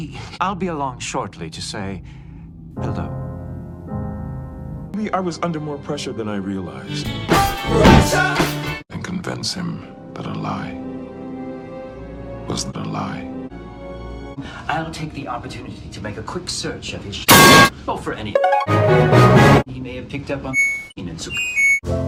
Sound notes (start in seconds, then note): 7.0 thunk; 17.3 metal clang; 21.5 Samsung Laundry Chime